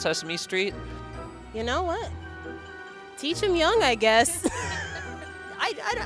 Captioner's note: laughs